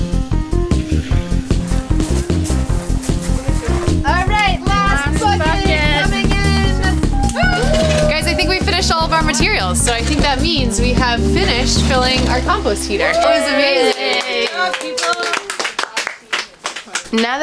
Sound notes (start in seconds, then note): 6.8 cheering; 12.9 cheering